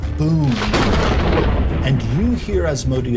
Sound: lightning sound

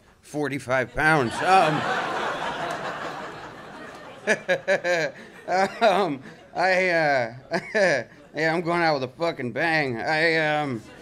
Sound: laughter

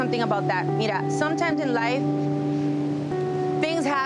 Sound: speaks in foreign language

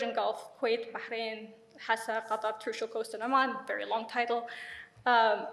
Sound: speaks in foreign language

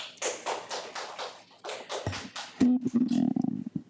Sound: audience applauds

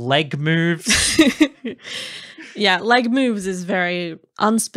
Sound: laughing

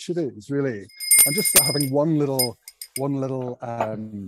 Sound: bell rings

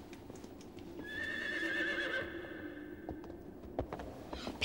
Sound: horse neighing

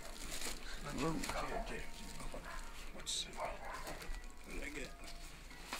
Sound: murmuring

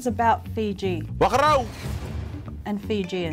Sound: speaking in foreign language

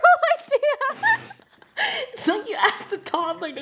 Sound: laughing

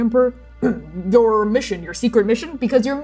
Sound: clearing throat

